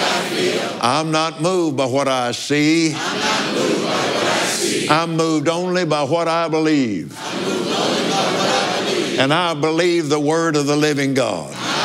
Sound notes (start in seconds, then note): 4.6 audience repeats